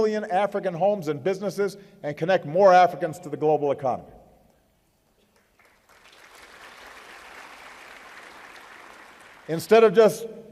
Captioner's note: applause